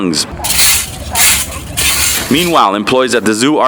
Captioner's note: cleaning tool scraping